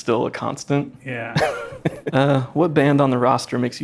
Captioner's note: laughing